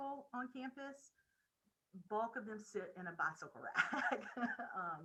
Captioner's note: laughing